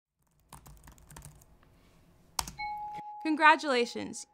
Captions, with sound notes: (keyboard keys clacking) (computer dings) - Congratulations.